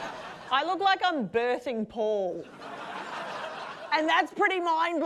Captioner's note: laughter; laughter